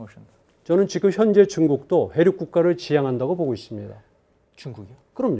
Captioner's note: speaking in Korean